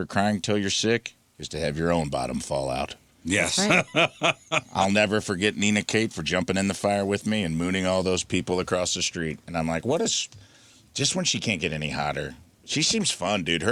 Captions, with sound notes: crying till you're sick is to have your own bottom fall out." Yes. (laughs) I'll never forget Nina Kate for jumping in the fire with me and mooning all those people across the street. And I'm like, "What is..." Just when she can't get any hotter. She seems fun, dude.